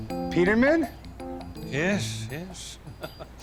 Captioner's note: chuckles